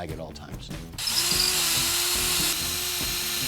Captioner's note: power drilling